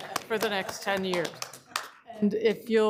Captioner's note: applause